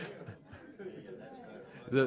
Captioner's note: laughter